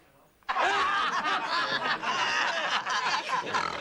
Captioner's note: Reír